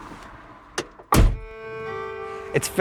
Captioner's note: door slams